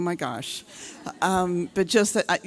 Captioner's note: audience laughing